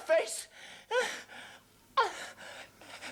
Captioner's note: gasps